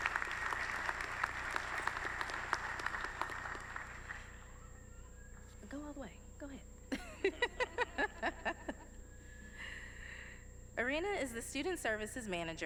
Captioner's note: applause